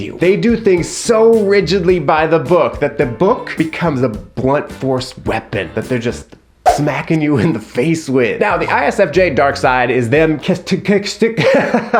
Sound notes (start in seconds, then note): 6.6 arm whooshing; 10.2 laughs